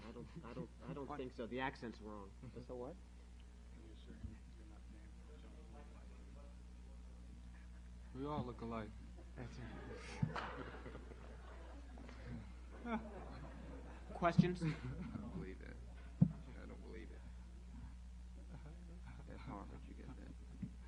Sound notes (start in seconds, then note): 5.7 whispering; 9.2 laughter